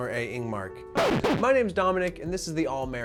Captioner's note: record scratching